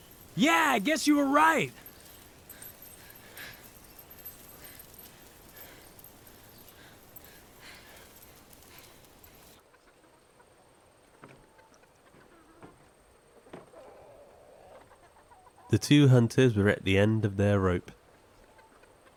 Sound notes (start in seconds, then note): 2.5 birds chirping; 2.5 dog tags jingling; 9.5 chickens clucking